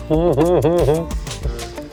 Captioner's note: laughing